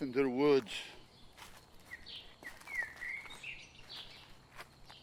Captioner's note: footsteps pattering